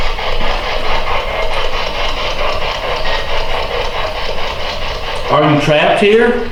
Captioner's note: clicking; static